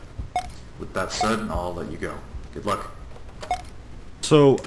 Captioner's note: tape Stops